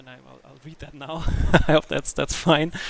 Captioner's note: nervous chuckle